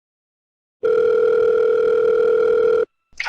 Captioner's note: phone rings